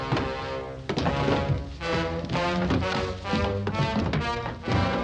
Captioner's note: clattering